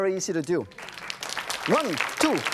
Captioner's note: audience claps